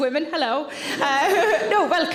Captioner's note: audience laughs